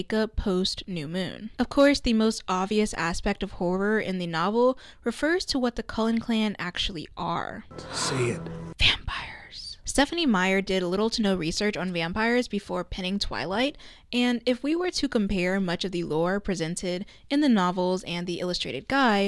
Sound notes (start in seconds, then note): 7.8 whispers